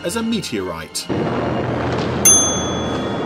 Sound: loud explosion; bell dings

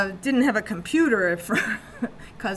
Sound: chuckles

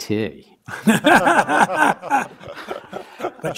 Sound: laughs

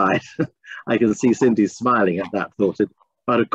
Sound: laughter

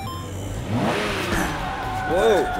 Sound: engine revving

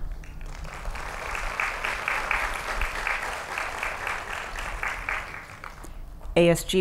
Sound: applause

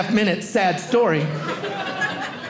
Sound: audience laughing

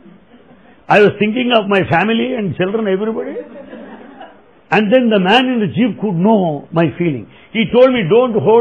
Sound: laughter; laughter

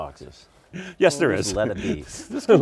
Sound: laughs

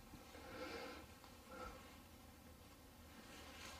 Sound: breathing

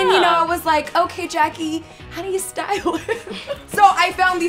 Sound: laughs

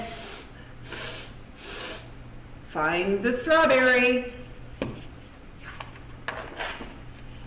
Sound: sniff! sniff! sniff!

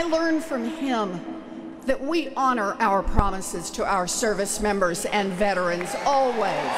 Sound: applause

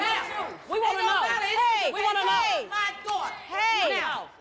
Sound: yelling

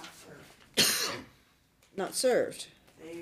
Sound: coughs

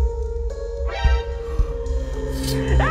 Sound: gasps

